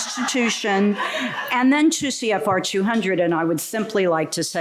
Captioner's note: laughter